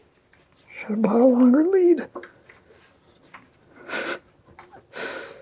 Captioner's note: snickers